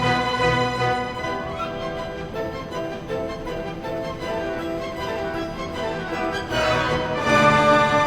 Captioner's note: classical music intensifies; train engine howls